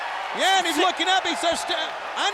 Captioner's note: audience cheers